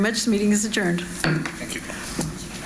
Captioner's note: gavel bangs